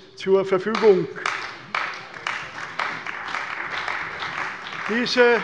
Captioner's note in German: Beifall bei der CDU und dem BÜNDNIS 90/DIE GRÜNEN